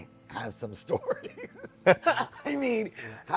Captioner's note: both laughing